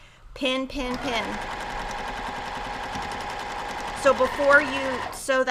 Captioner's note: machine whirrs